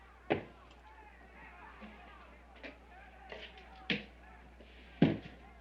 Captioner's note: townspeople shouting in distance